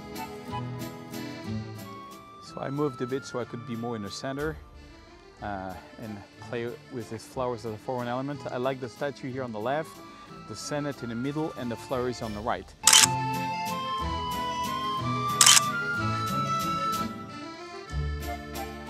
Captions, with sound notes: So I moved a bit so I could be more in the center and play with these flowers as a foreground element. I like the statue here on the left, the Senate in the middle, and the flowers on the right. (camera clicks)